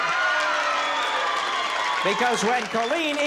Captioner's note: audience cheers